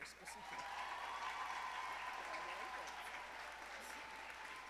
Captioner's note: audience applauding